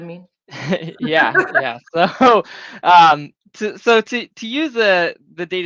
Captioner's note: both chuckling